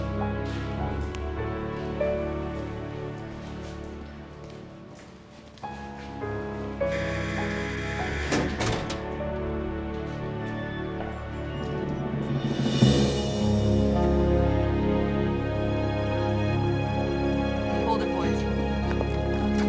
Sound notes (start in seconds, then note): 6.8 door buzzes